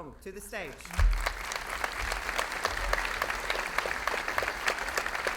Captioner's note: audience applauding